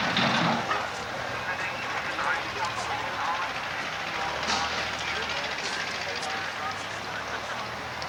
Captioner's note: demolition equipment sounds